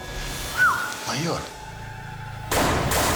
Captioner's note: whistles; gunshot